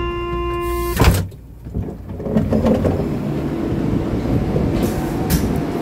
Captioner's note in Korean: 출입문 열림